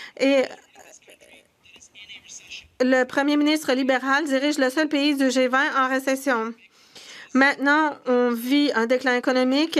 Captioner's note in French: voix de l'interprète